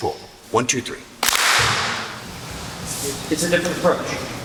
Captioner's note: clap